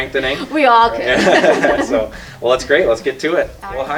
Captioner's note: laughter